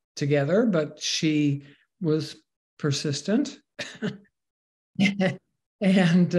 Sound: laughs

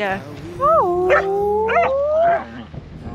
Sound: more whale noises

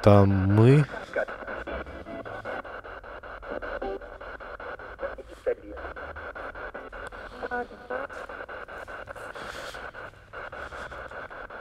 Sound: laugh

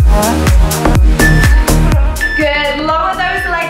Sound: phone beeping

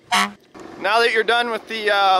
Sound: honking

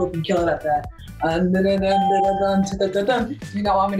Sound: hums; ding

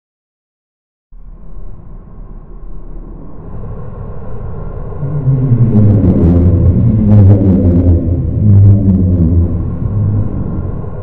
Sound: sound of underwater monster

